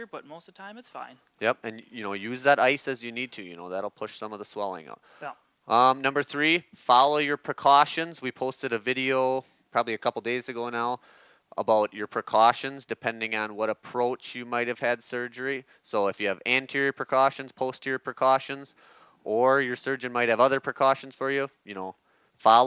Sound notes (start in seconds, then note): 5.0 inhales